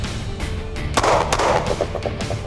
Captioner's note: gun shots